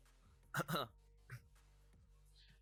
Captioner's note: cough cough